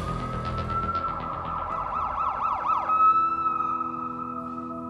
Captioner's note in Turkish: Ambulans sireni çalıyor